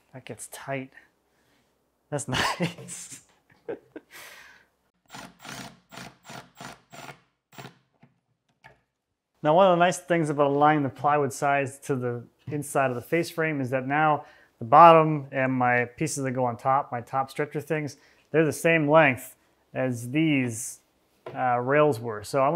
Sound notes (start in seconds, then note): 2.2 chuckling; 3.3 drill humming